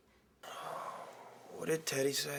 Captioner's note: Tom exhales